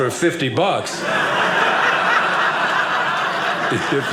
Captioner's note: audience laughing